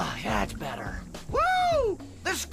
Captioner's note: whooping